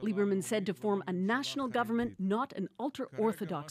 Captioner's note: speaking foreign language